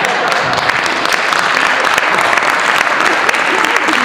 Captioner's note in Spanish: Aplauso